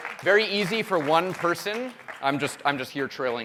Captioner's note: applause